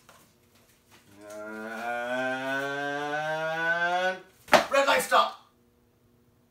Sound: stomps foot

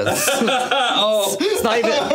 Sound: laughs

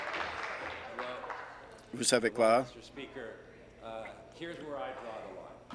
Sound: applause

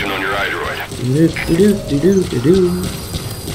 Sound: humming

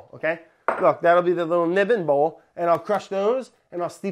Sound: none

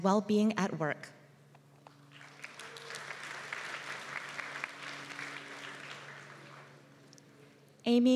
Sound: applause

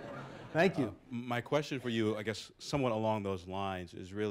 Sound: laughter

